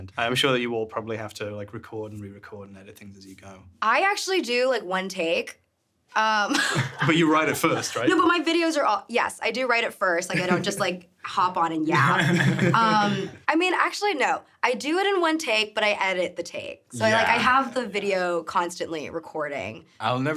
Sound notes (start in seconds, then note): 6.5 everyone chuckling; 11.9 laughing; 12.0 chuckling